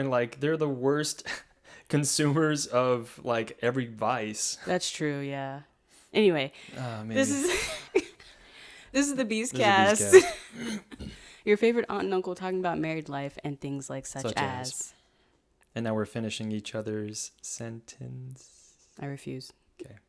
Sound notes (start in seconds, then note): 9.5 laughs